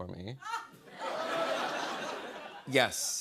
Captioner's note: laughter